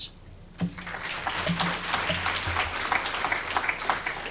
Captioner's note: applause